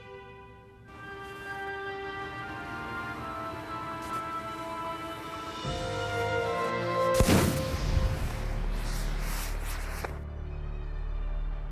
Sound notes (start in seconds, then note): 7.1 wires popping